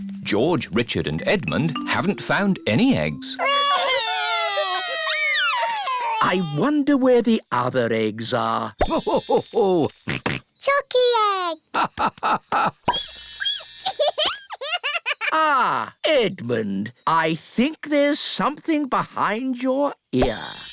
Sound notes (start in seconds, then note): 3.4 wailing; 9.2 laughing; 12.2 squeaking; 13.9 giggling